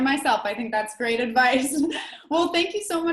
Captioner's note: laughs